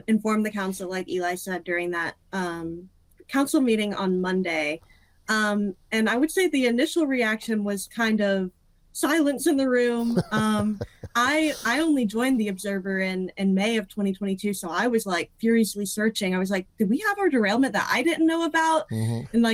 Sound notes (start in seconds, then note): 10.0 laughing